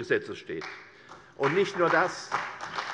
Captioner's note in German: Beifall CDU, vereinzelt BÜNDNIS 90/DIE GRÜNEN und SPD